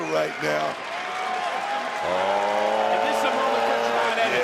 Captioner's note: crowd clapping